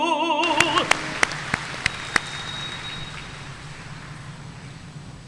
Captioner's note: audience applauding